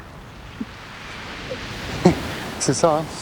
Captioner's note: laughs